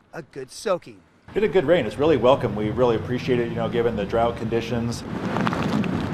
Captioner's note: rain falling